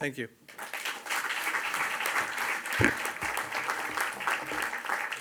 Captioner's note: audience applauds